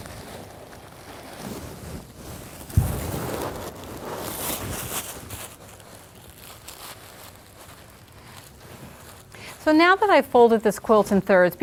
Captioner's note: paper rustling